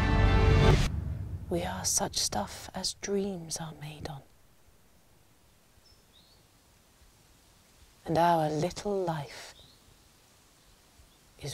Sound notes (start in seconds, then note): 5.2 leaves rustling; 5.2 birds twittering